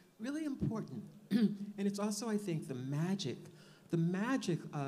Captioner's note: clears throat